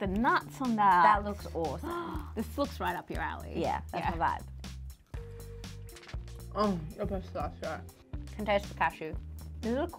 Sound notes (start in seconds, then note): 2.2 gasps